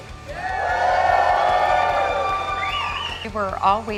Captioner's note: crowd cheers